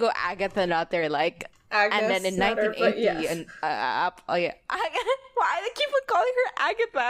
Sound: laughs

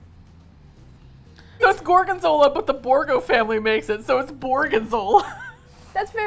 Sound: laughs

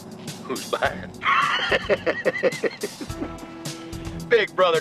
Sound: wheez

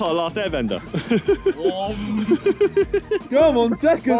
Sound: laughs

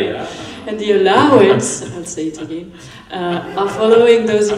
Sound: laughter

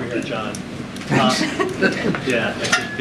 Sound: laughter

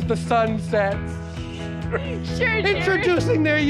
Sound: everyone laughing

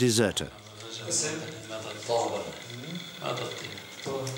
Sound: Arabic spoken audio

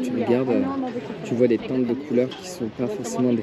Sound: speaking in foreign language

